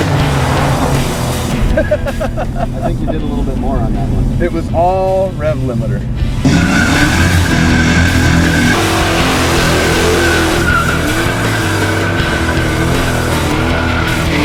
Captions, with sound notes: - (laughs) - I think you did a little bit more on that one. - It was all rev limiter. (engine revs) (tires squeal) (intense rock music)